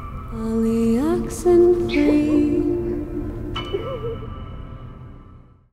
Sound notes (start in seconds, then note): 1.9 giggles